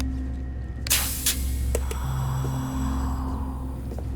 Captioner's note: hissing as suits pressurized